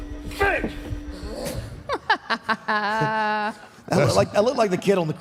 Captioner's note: Michelle laughs